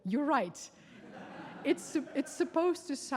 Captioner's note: audience laughing